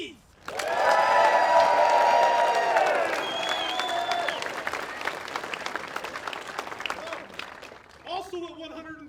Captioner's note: applause